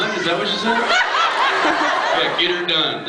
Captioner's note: laughs